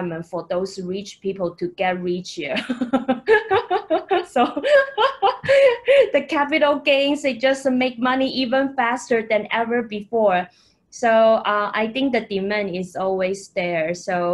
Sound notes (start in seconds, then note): 2.6 laughing